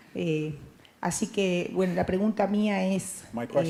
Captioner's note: Spanish language